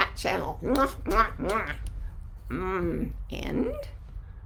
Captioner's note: blowing kisses